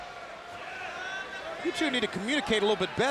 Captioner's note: fans cheering